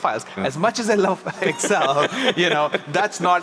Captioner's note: laughs